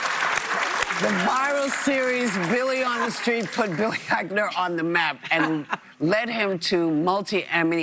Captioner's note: applause